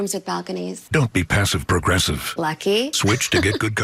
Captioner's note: chuckles